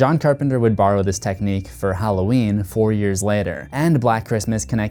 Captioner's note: none